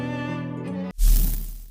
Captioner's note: flame sound